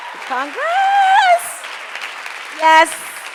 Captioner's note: audience applauds